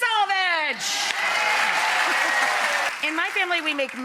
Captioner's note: audience applauds